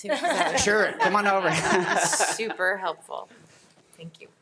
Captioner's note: audience laughing